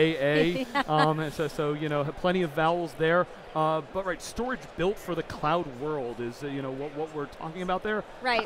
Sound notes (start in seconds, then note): 0.5 laughs